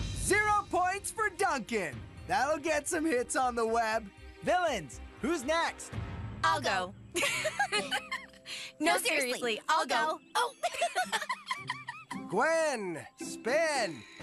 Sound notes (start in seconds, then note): 7.1 Gwen and Courtney Giggles; 10.4 giggles